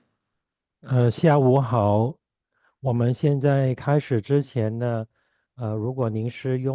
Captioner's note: chinese interpreter speaking Chinese